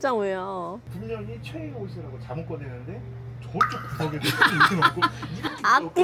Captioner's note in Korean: 웃음